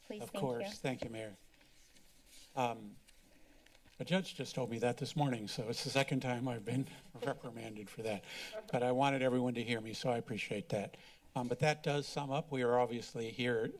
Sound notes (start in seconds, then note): 0.9 rustling sound